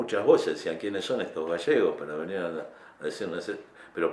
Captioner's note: Spanish